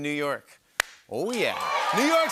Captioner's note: cheering and applause